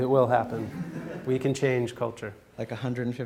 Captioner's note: audience laughs